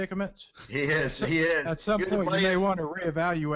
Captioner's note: laughs